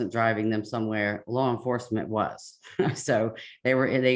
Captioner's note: chuckles